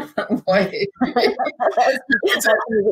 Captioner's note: laughing